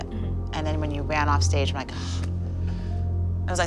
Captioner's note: gasps